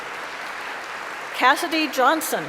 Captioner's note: applause